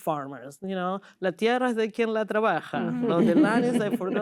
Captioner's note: laughter